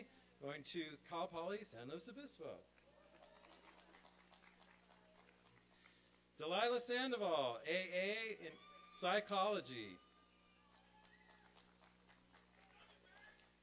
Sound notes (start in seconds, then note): 2.8 applause; 10.4 applause and cheering